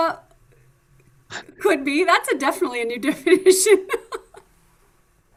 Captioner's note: laughs